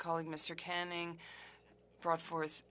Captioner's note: speaking french